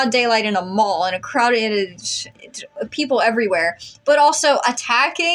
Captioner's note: stammer